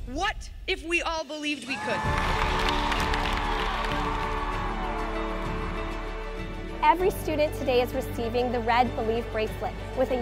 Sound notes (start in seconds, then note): 1.6 audience cheering; 3.9 inspiring music